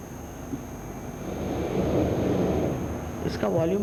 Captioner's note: Shri Mataji blows into the mic